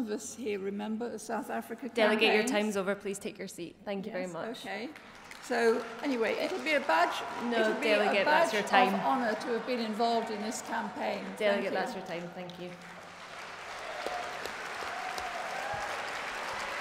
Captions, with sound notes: solidarity with the Windrush nation, please support thank you . (applause)